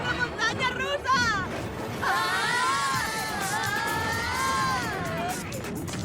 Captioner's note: screams